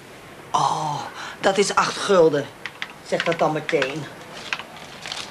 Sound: speaks Dutch

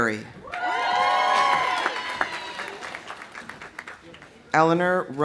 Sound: audience cheering; audience applauding

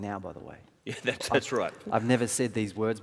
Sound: laughing

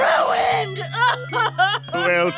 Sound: crying

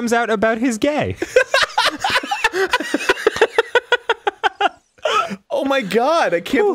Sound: laughter

